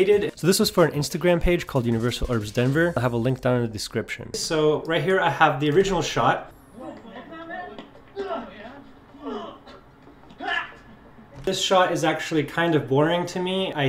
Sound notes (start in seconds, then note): 6.4 punching and grunting